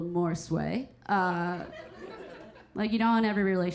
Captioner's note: audience members laughing